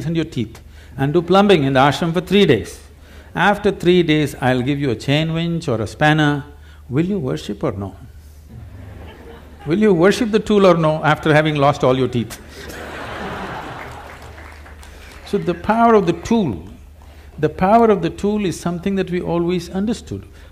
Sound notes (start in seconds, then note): 8.5 few laugh; 12.4 laughter/Applause; 12.4 笑聲/掌聲